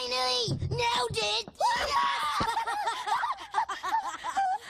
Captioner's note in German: Beide lachen fröhlich